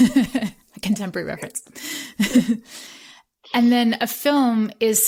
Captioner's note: laughter